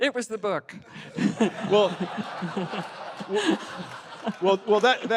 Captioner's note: laughter